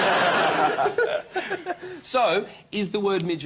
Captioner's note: laughter